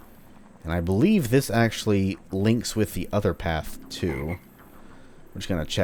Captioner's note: ribbit